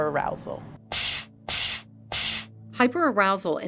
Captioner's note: air hisses